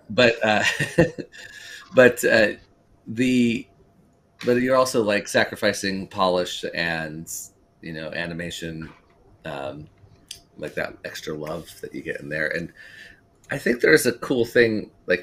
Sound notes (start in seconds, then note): 0.4 laughs